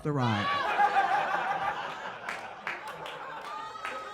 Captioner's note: audience laughs